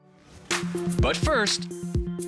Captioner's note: air whooshing